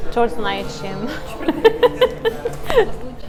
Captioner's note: laughter